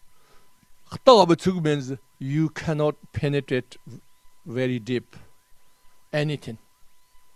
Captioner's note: tibetan